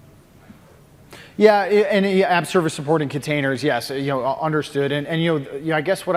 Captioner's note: off mic